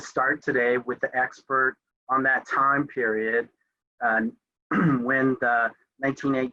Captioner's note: coughs